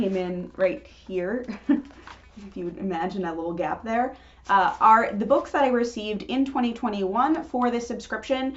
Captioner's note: chuckle